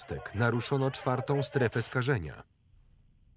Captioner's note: static from walkie talkie